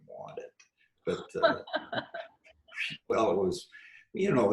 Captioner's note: laughs